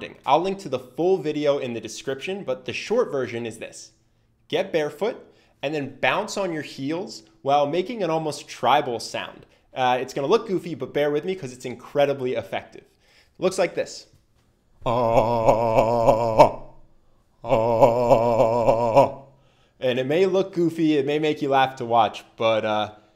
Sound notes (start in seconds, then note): 14.8 makes a constant "Ah" sound all the while bouncing on his heels